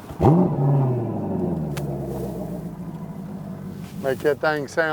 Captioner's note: engine rumbles